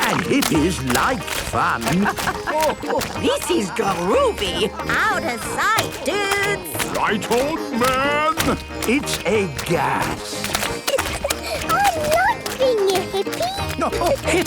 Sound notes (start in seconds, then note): 2.4 laughing; 10.1 giggling